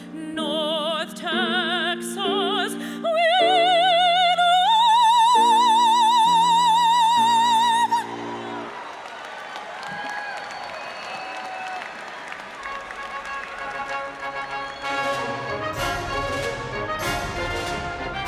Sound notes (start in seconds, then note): 8.0 audience cheers and applauds; 12.0 instrumental music